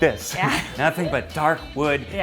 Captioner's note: laughs